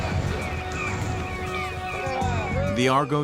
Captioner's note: gulls calling; men shouting